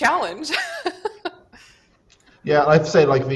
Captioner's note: laughs